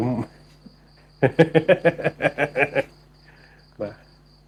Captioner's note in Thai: เสียงหัวเราะ